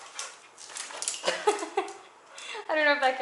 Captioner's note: laughter